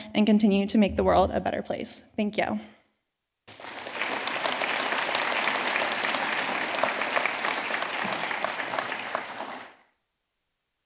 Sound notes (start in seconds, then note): 3.4 audience clapping